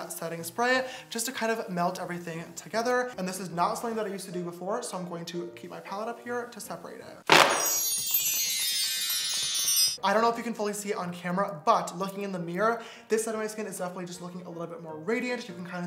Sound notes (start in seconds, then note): 7.5 wind chimes